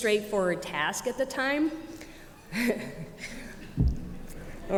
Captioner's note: chuckles